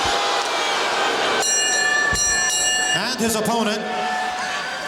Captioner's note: bell ringing